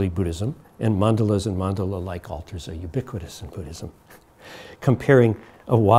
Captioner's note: chuckles